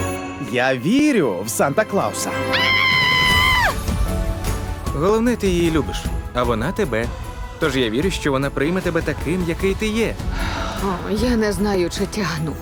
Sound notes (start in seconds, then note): 2.5 screams; 3.9 pop music resumes; 10.3 sighs